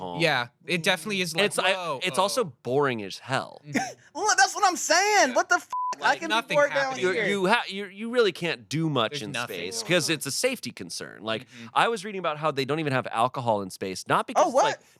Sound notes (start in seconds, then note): 5.7 beep